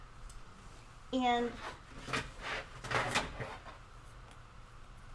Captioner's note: tools clatter